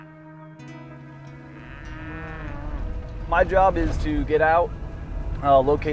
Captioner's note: cattle mooing